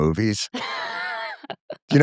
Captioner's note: laughter